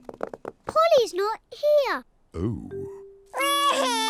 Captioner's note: wailing